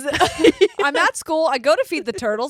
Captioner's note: laughing